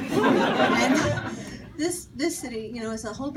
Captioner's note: audience laughing